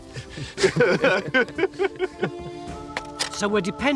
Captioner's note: pleasant music; laughing